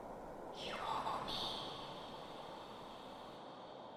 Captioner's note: whispering echoes in background with the wind